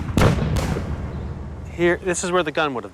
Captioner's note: gunshot fire